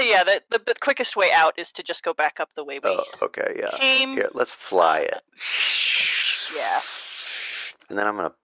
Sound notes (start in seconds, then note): 5.5 whooshing sounds